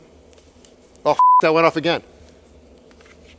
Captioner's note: beep